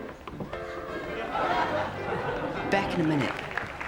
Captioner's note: audience laughing